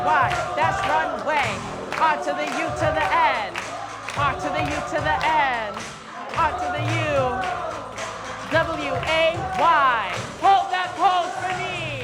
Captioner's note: chanting